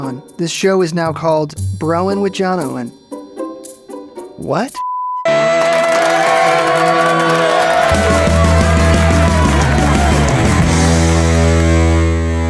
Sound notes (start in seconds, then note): 5.4 upbeat music; 5.4 audience applauding